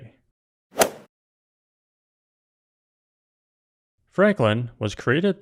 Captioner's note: golf swing sound effect